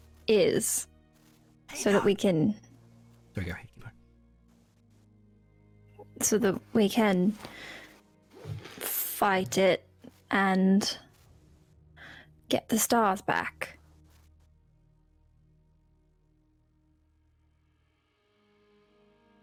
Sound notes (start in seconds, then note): 2.3 whispered